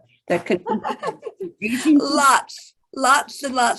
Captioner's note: laughs